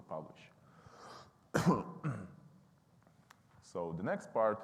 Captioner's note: coughing